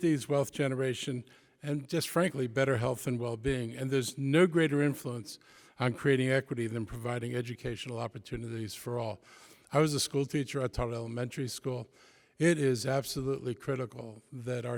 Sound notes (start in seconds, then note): none